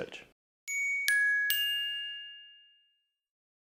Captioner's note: chimes